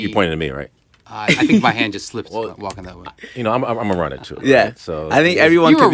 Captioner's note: laughter